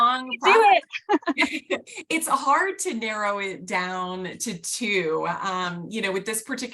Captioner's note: laughter